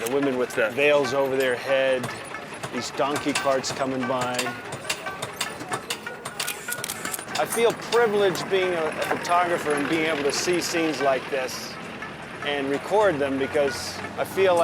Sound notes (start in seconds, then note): 6.4 camera clicking